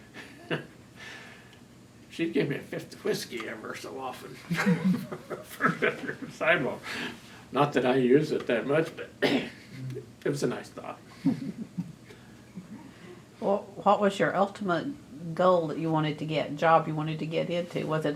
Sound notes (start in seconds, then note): 7.3 laughter